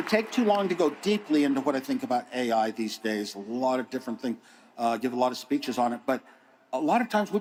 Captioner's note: applause